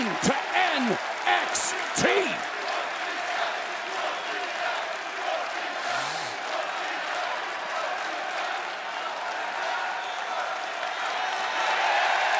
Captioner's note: crowd cheering